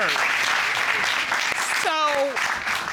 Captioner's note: audience applauding